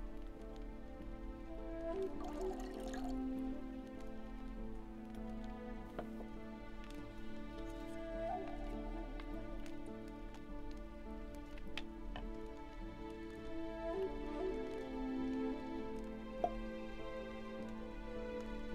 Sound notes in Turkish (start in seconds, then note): 1.9 Sıvı dökülme sesi